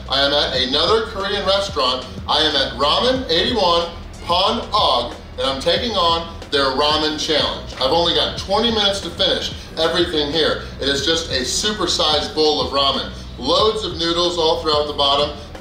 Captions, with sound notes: I am at another Korean restaurant. I am at Ramen 81 (speaks in foreign language) and I'm taking on their ramen challenge. I've only got 20 minutes to finish everything here. It is just a supersized bowl of ramen. Loads of noodles all throughout the bottom.